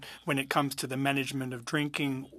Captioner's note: speaking French